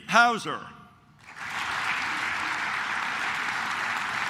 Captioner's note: claps